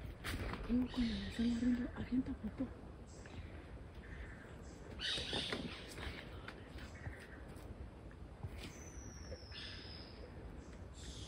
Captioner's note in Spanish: susurrando